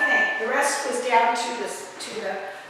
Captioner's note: beeping sound